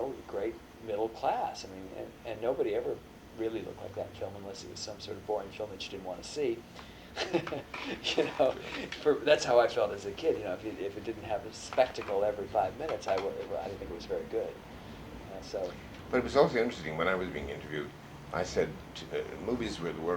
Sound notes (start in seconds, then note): 7.1 laughs